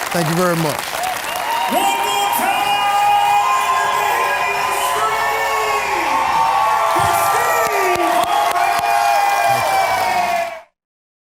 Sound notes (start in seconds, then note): 6.2 audience cheers